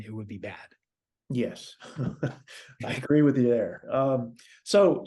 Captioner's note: laugh